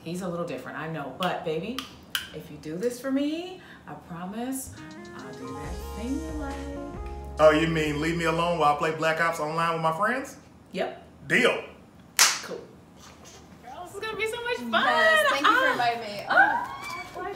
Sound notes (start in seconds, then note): 4.6 sexy music; 12.2 claps; 16.7 squealing